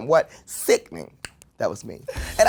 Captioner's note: tongue clicks